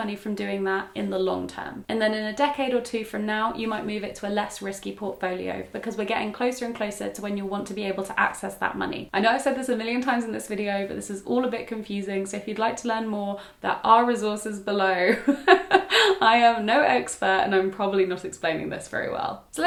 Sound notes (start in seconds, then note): 15.1 laughs